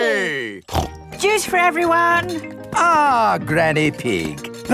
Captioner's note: snorts